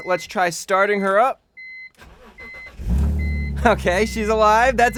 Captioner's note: engine starting noises